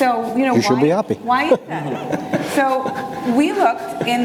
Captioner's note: laughs